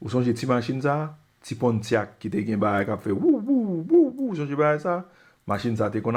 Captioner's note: woo, woo